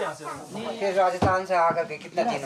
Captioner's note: foreign language spoken